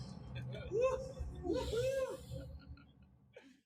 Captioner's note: laughs